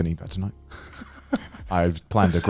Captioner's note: laughing